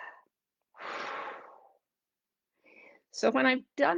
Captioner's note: exhales heavily